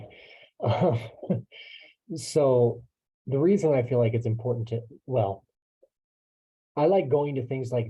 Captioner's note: chuckle